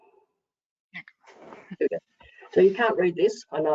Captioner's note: faintly speaking